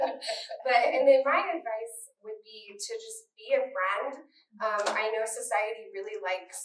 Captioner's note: laughter